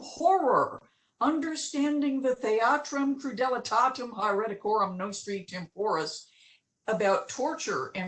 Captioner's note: non eglish speech